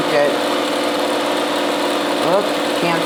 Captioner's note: machine whirring